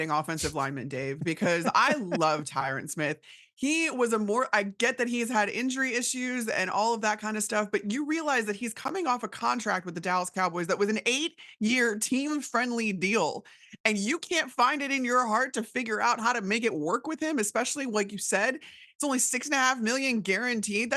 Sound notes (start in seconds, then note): 1.4 laughs